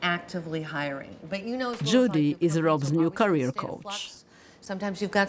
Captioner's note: voice-over